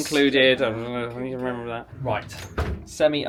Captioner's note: mutters